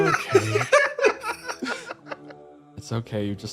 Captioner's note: laughs